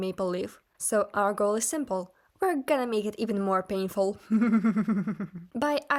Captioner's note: evil laughter